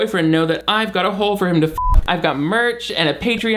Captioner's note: beep